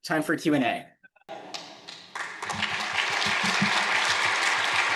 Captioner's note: attendees applauding